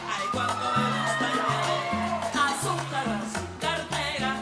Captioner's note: audience cheering